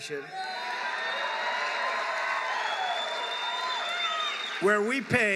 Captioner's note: applause